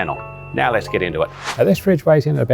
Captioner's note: air whooshes